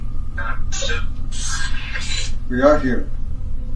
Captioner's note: EVP warbles